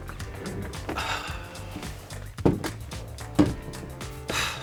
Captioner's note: sighs